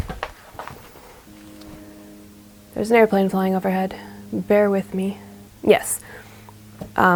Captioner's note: distant airplane noise